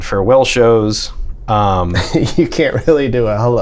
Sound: laughter

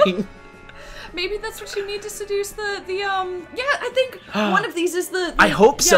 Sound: gasp

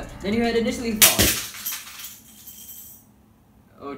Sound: 2x2 crashing and breaking

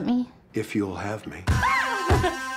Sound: exited laugh

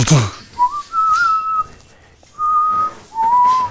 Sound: whistling

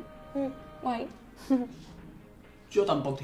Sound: laughs

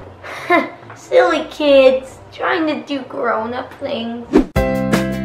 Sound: laughing

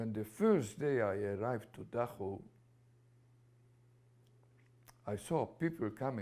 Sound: pauses for 3 seconds

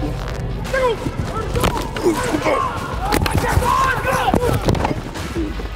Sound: grunting and yelling

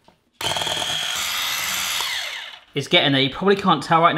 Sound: whisking loudly

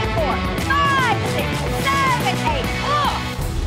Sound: upbeat music; coach counting

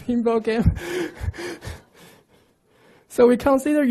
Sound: laughs

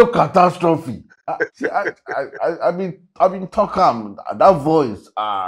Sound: Anthonio laughs

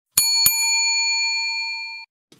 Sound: bell dings

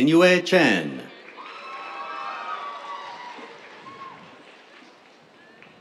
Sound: cheers, applause

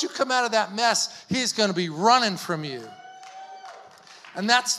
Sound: audience clapping

